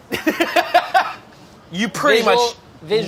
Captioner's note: laughing